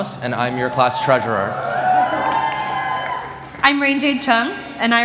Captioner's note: cheering